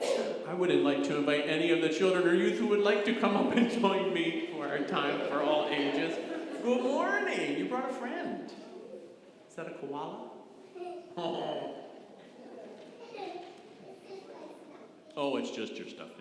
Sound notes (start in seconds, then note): 13.2 giggles